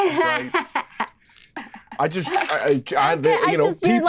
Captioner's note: laughs